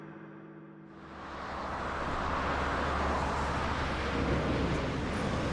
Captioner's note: traffic humming